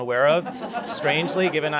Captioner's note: laughter